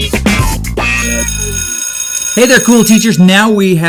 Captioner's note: bell rings